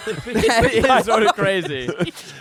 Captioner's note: everyone laughs